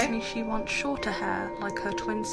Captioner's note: woman's Voice